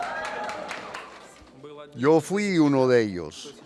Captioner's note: aplausos